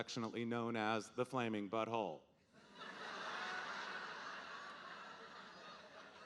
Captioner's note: audience laughing